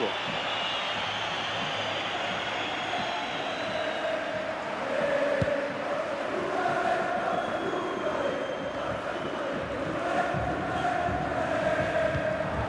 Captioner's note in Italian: Applauso